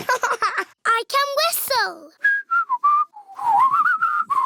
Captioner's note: laughs; whistles